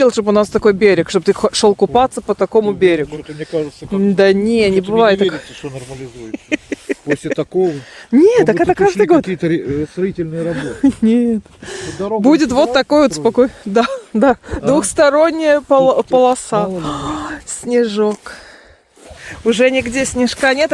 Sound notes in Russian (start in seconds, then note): 6.2 смех